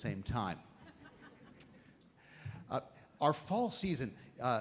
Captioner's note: audience laughs